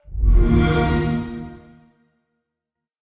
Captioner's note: xbox sound